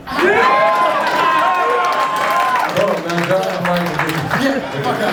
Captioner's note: audience cheers, applause